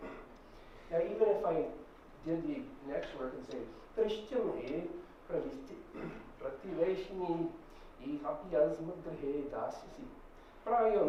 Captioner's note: speaking in Sanskrit